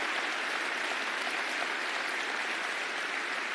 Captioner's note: applause